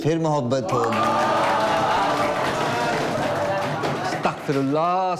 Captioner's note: loud cheer and applause